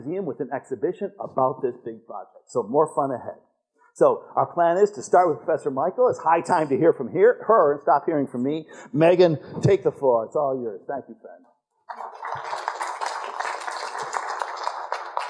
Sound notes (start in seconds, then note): 11.8 applause